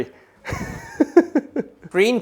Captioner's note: laughs